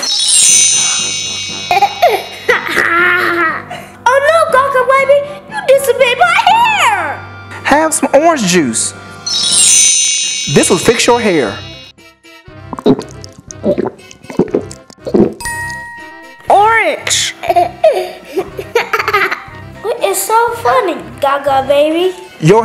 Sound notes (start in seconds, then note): 0.0 chimes; 0.1 laughing; 12.7 gulping; 18.3 laughing